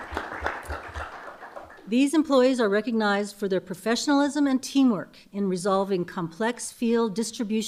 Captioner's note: applause